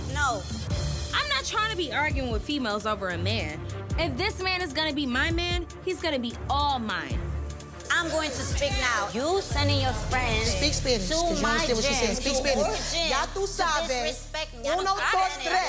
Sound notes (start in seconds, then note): 13.5 speaks in foreign language